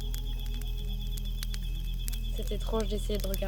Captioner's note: in french